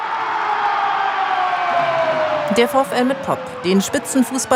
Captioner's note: applause